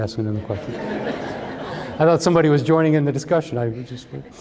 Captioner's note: laughter